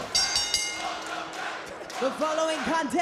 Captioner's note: bell rings; crowd chants "Welcome back"